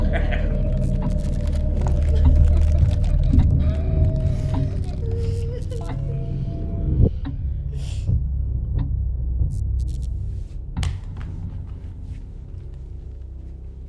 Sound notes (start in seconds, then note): 0.0 Brian laughs; 0.3 Angela whimpers; 7.8 eerie music; 7.8 electricity buzzes